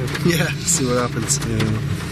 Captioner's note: chuckles